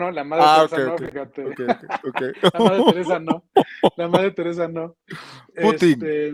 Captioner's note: laughs